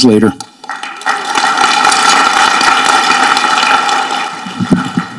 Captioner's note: audience clapping